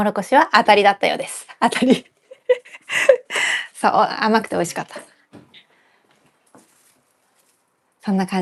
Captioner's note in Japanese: 笑い